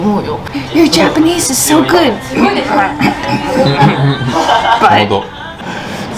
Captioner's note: fake coughing